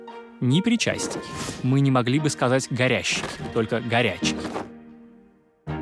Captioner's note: burning